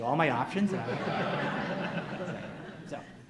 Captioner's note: audience laughs